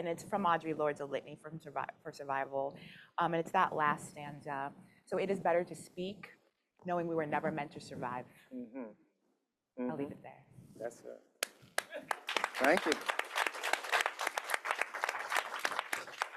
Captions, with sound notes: and it's from Audre Lorde, "A Litany for Survival," and it's that last stanza. So it is better to speak knowing we were never meant to survive. I'll leave it there. That's great. [APPLAUSE] Thank you.